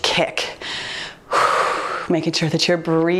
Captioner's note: exhaling